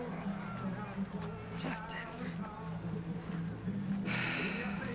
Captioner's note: crowds chatter, laugh; sighs